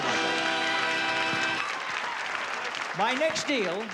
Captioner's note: applause